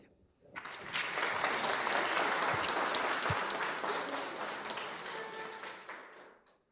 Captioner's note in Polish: oklaski